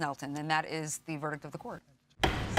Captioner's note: gavel bangs